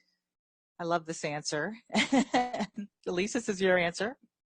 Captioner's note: laughs